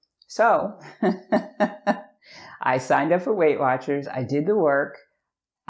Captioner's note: laughs